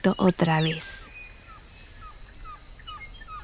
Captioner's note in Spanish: pájaros trinando